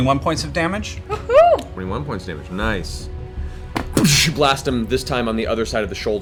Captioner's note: gunshot